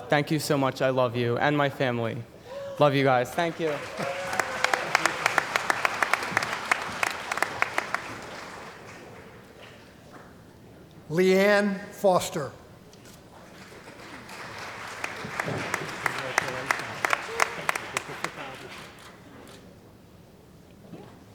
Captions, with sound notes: Thank you so much, I love you and my family. Love you guys, thank you. [ Cheering & Applause ] >> Leann Foster. [ Applause ]